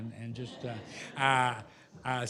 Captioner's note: laughter